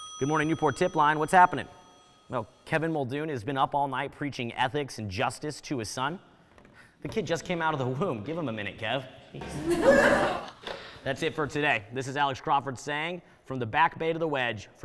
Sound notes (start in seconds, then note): 9.5 audience laughing